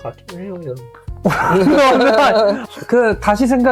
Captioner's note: laughter